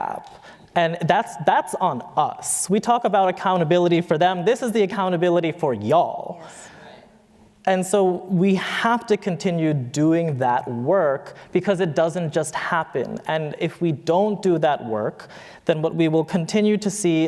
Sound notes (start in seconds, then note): none